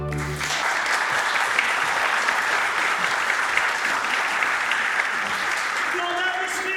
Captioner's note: applause